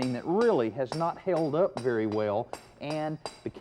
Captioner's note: mason hammering